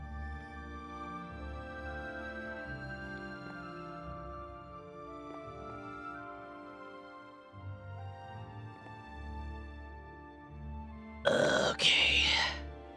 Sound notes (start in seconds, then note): 2.0 groans